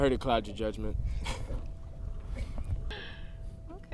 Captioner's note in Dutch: beiden grinniken